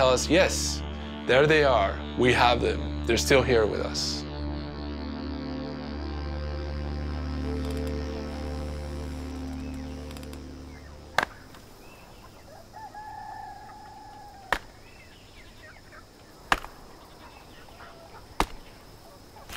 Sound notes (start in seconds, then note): 7.4 hammock creaking; 12.3 rooster crowing; 16.4 wood being chopped